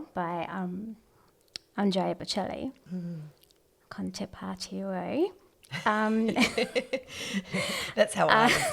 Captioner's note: laugh